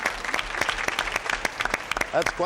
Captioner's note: applause